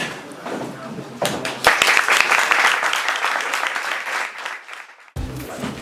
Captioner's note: applause